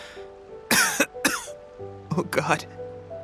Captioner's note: cough